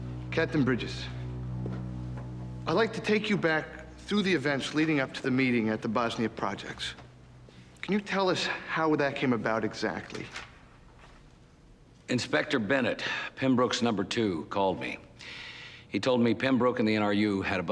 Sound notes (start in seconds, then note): none